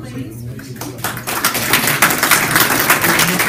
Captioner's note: applause